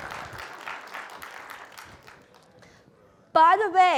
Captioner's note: applause